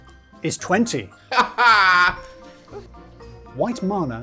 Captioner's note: laughing